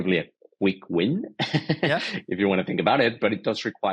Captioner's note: laughing